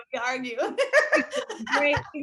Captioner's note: laughing